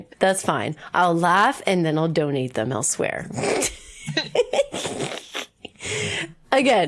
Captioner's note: laughs